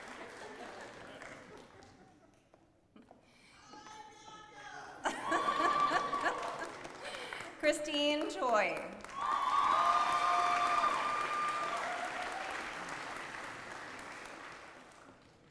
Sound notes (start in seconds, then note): 0.0 applause; 12.3 applause